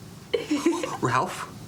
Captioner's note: Lulu chuckles